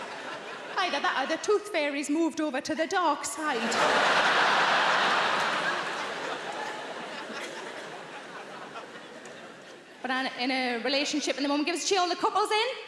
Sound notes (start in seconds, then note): 3.5 audience laughing